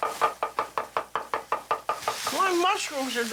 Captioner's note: chopping